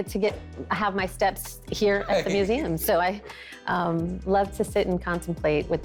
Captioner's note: chuckles